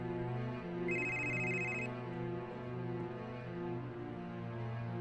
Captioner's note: phone ringing